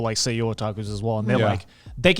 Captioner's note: speaking in Japanese